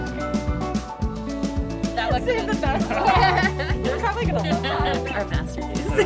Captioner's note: chatter